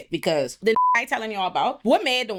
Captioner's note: beep